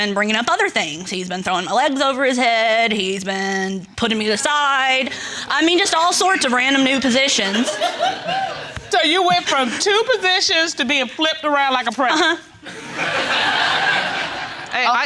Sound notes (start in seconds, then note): 7.4 audience laughs; 12.6 laughter